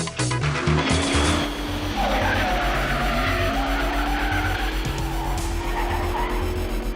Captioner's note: motor Revving and Tyres Screeching